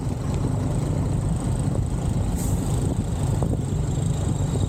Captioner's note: engine noise; truck hydraulics hissing